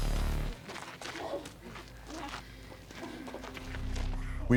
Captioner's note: panting